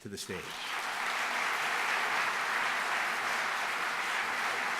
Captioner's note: applause